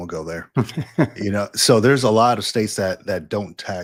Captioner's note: laugh